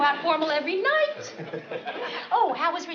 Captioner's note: laughs